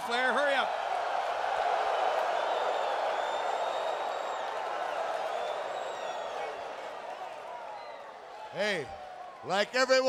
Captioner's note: applause